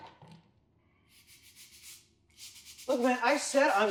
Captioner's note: sound of brush cleaning the floor